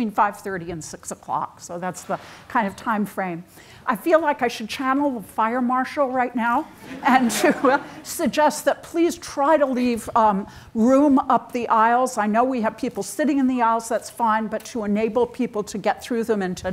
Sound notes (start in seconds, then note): 6.7 audience chuckles; 6.8 chuckles